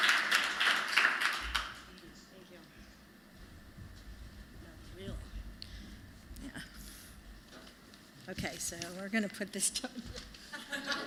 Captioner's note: applause